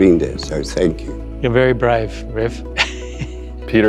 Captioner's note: laughing